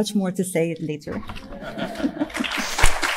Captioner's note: panelists laughing; audience applauding